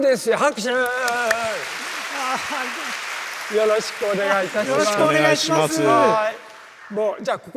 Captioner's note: applause